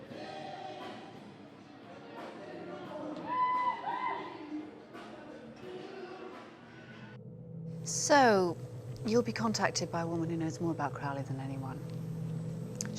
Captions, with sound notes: (vibrant jazz music) (woman shouting) - So you'll be contacted by a woman who knows more about Crowley than anyone.